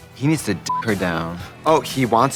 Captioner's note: beeping